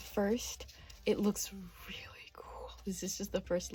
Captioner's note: whispering for special effect